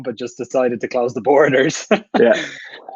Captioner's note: chuckle